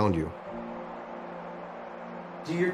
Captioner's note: crowd cheering